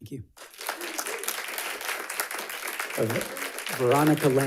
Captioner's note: audience applauds